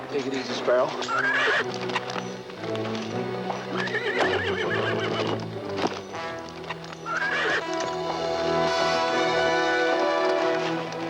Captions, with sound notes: - Take it easy, Sparrow. (horse neighing) (upbeat music)